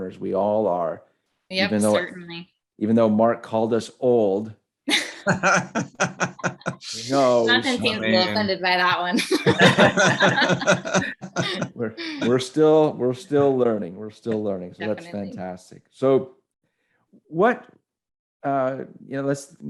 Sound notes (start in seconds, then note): 4.9 laughs; 9.1 all laugh